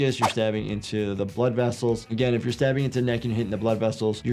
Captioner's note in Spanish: none